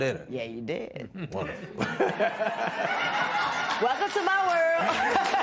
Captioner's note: laughter